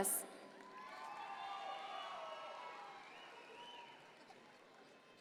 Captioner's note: audience members cheer